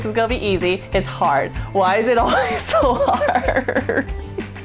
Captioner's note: fake sobbing